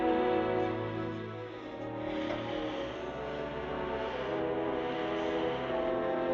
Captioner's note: breathing Heavily